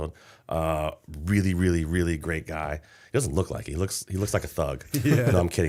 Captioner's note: chuckle